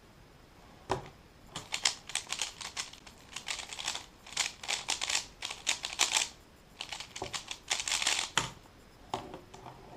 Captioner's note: cube noises